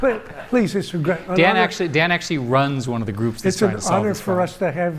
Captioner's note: laughter